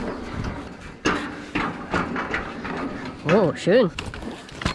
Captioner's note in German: klappern